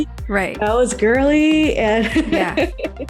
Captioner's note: laughs